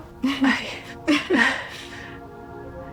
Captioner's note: laughing